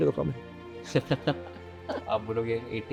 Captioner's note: laughs